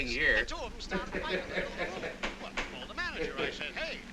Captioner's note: man chattering on radio